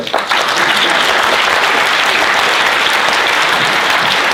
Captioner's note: applauding